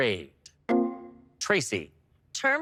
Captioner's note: electric chime